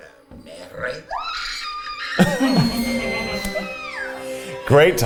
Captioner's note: screams